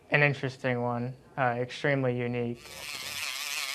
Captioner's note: whirring